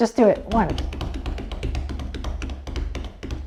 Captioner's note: feet patting the floor